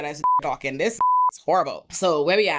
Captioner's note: beep